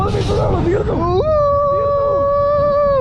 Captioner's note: screaming